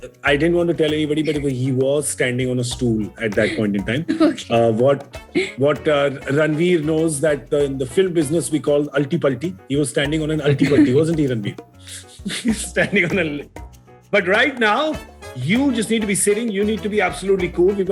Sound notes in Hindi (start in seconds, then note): 11.9 गौरव हँसते हुए